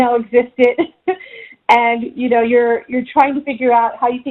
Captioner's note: chuckles